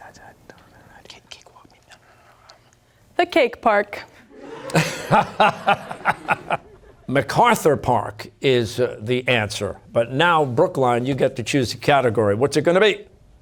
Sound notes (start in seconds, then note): 4.3 laughter